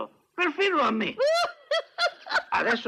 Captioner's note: laughs